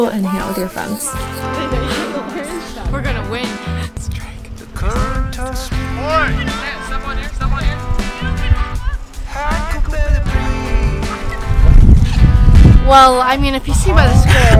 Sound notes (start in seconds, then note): 2.0 laughing; 6.1 game players quietly chattering